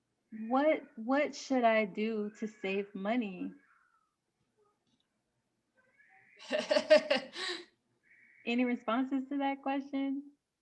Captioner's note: laughs